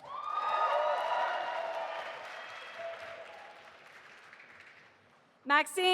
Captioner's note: audience applauding and cheering